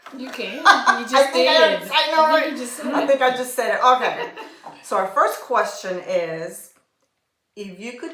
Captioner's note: laughter